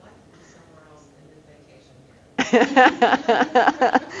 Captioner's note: laughing